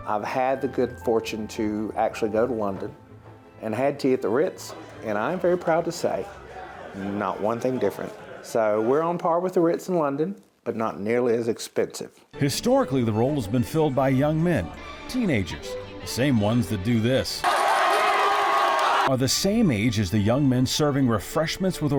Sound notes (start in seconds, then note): 17.4 crowd cheering